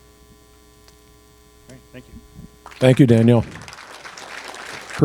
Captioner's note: applause